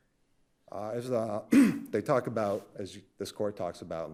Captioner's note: clears throat